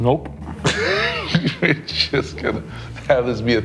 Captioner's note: laughs